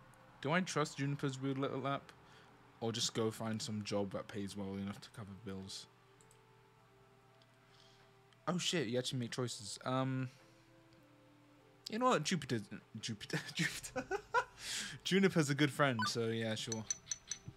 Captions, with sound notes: Do I trust Juniper's weird little app? Or just go find some job that pays well enough to cover the bills? Oh shit, you actually make choices Um You know what? Jupiter's a n- Jupiter? Jupiter! *laughs* Juniper's a good friend so yeah sure